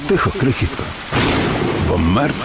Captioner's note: rain and thunder